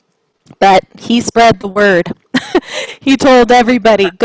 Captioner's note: chuckles